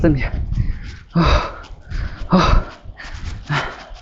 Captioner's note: panting